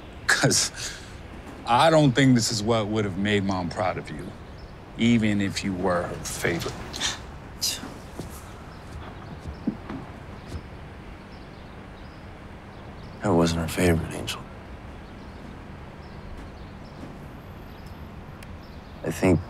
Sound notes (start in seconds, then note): 7.3 scoff